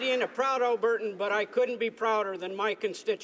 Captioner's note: applause